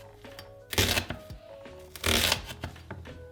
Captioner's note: cutting sound; cutting sound